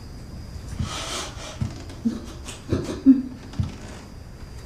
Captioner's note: Laurie whimpers